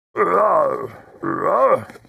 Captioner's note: grunts